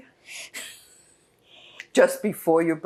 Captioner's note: laughing